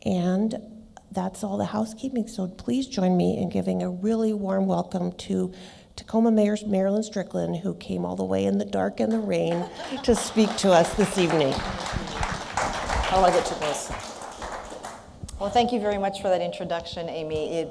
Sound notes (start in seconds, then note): 11.5 applause